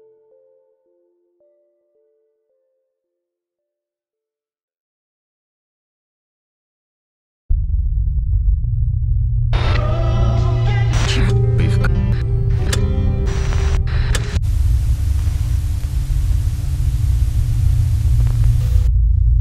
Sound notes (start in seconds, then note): 7.6 static hums; 9.5 distorted music; 9.7 projector clicking; 15.8 static hisses; 19.2 static hums